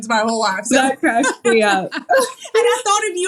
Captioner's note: laugh